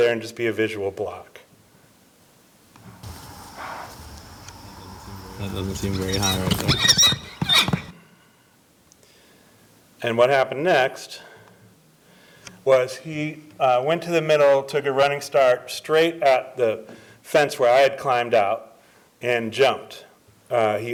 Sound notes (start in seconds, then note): 4.8 horse squealing